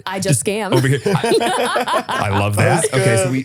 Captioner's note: both laughing